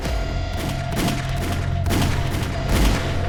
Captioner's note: gunfire